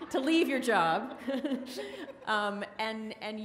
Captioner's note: audience laughs